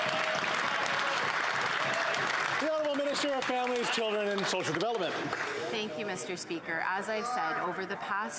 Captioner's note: some Applause